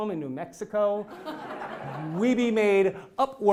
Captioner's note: laugh